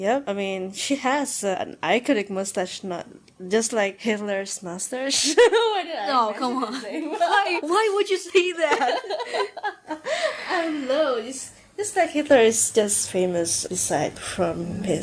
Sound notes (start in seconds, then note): 8.5 more ahuehuehuehue-ing